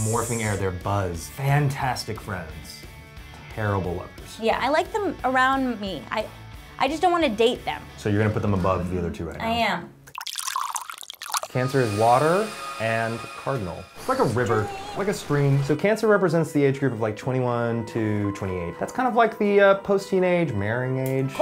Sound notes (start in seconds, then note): 10.1 tea pours